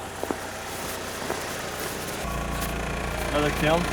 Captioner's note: truck engine